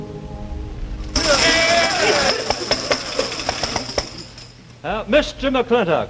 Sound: tambourines jingling; men cheering

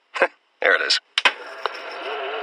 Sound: pc boot up; gaming pc boot up

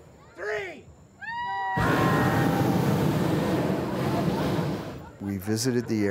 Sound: balloon burner firing

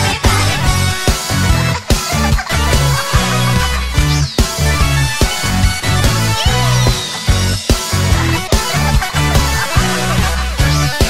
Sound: bops

